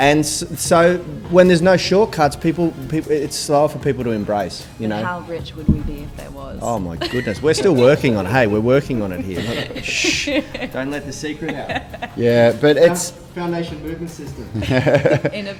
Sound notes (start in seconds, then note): 8.8 shushing; 9.2 laughs